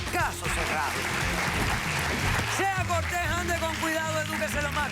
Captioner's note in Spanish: Aplausos